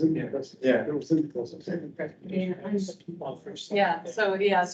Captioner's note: indistinct chatter